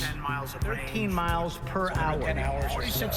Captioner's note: echoing